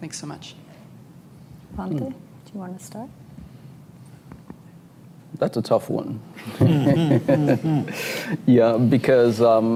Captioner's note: laughter